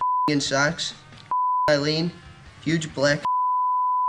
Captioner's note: beep; beep